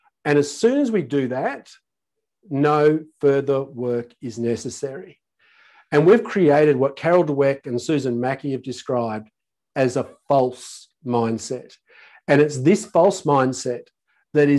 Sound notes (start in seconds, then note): none